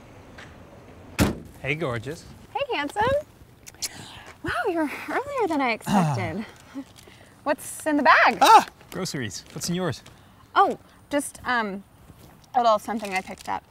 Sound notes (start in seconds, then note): 1.1 car Door Shuts